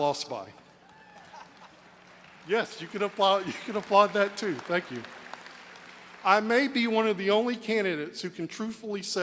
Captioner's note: applause